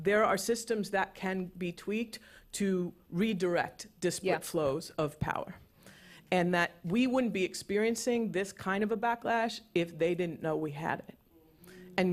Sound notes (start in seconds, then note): none